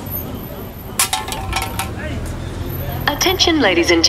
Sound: can rattles

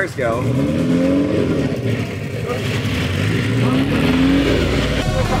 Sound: car engines revving

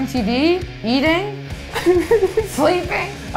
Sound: laughing

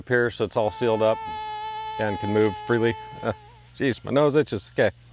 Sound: bee buzzing

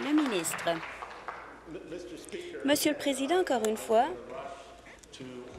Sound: applause

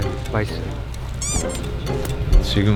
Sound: drooling

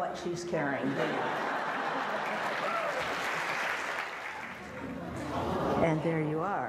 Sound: audience laughter and applause

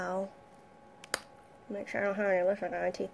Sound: lip smacking

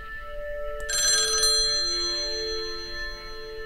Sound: phone ringing

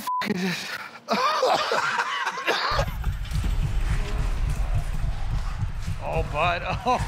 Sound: laughter

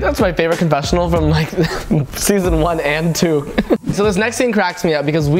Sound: chuckles

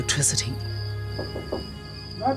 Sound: knocking; man calling

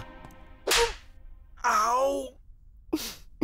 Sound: slapping

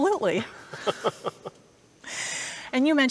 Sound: laughs

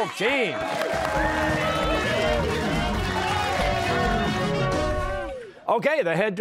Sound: cheers and applause

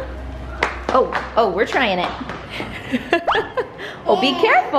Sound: laughs

